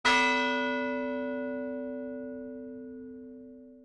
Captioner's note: bell chiming